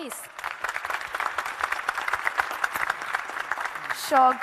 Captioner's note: audience and panel applauding